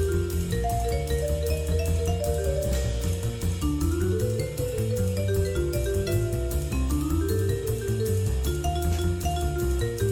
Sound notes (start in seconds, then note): none